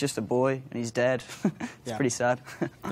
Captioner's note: chuckles